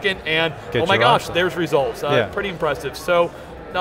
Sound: mummers

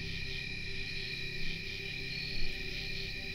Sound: insects chirping

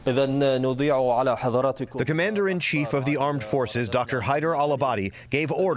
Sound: through translator

